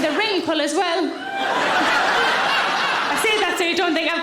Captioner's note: audience laughing